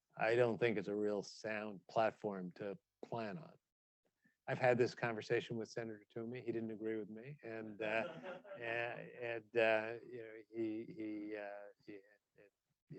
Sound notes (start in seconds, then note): 7.8 audience chuckling